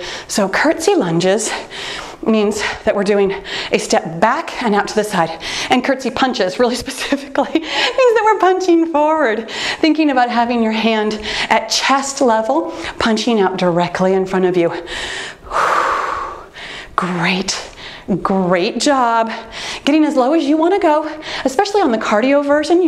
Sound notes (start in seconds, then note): 14.8 exhaling